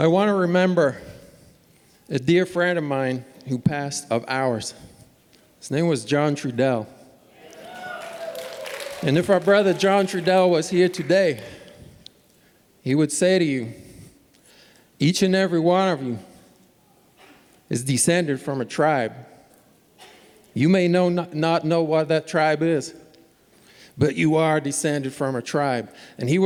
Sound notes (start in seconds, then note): 7.5 applause